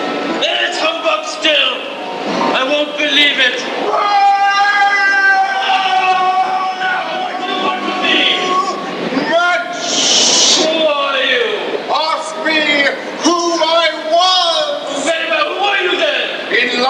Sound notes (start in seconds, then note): 4.9 moaning